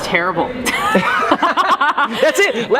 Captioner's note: laughter